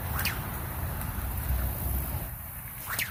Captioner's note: sling whips; splash; sling whips